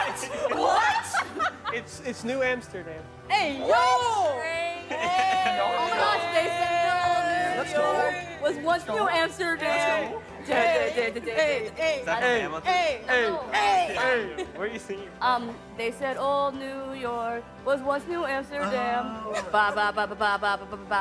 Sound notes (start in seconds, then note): 4.9 cheering